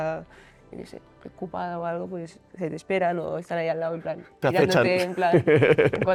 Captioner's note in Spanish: risas